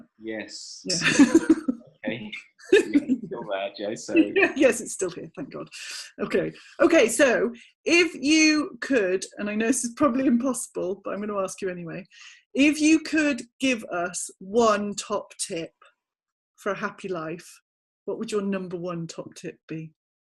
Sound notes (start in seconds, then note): 2.7 laughing